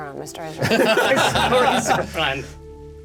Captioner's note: laughter